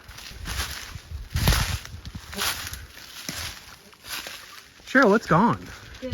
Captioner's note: leaves crunching